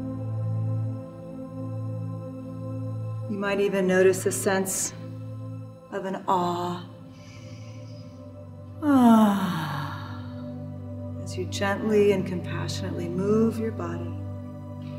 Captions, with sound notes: You might even notice a sense of an awe (exhales sharply) as you gently and compassionately move your body.